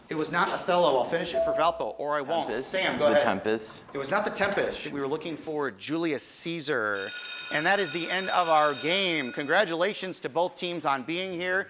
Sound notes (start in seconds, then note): 7.0 bell ringing